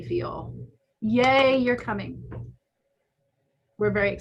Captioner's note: hands clapping